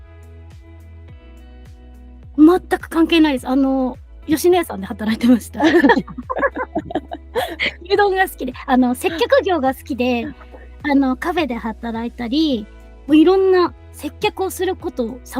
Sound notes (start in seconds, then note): 5.6 laughs